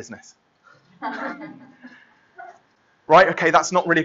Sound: laughter

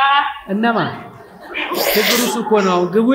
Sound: laughter

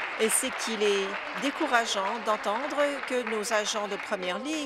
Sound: applause

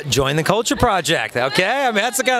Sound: laughs

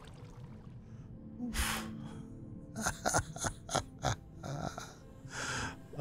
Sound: laughter

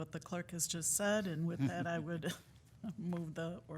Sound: chuckles

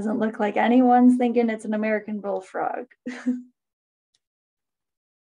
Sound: chuckles

